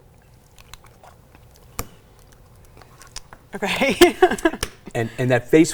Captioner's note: gulps; laughs